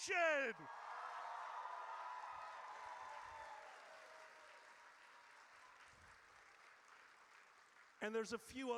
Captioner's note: audience cheers